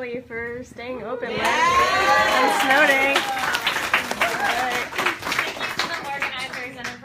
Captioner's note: applause